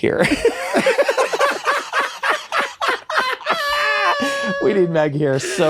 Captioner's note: guys laughing